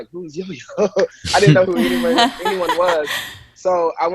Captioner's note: laughs drowns out speaker